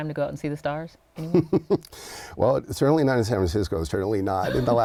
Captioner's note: laughs